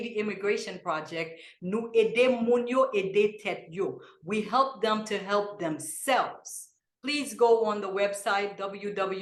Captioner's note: in Kreyol